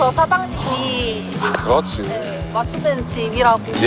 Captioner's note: clap